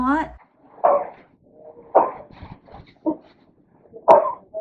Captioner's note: coughing and sneezing